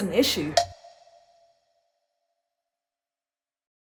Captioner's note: timer snicks